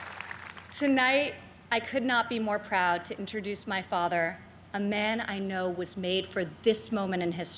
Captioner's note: applause